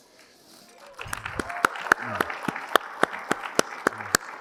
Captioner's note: applause